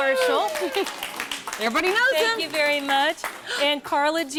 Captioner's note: �cheering and applause�